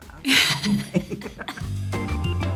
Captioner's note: chuckles; funky upbeat music